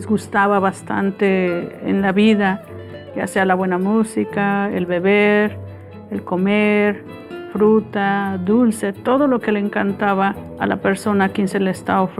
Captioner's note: speaking spanish